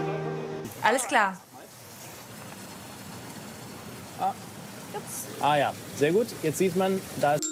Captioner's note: speaking Foreign Language